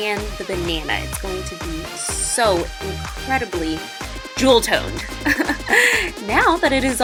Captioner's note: laughs